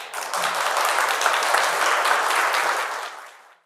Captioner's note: audience applauds